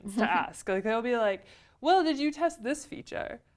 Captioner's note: laugh